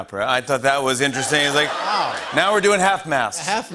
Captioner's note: laughter